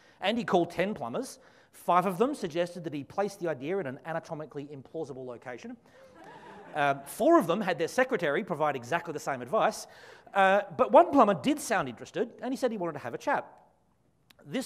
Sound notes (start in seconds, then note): 6.1 audience laughs